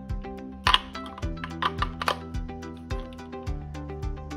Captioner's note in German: Batterien klicken